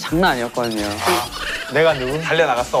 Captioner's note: laughs